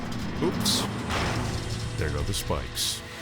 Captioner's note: spiked panels clanking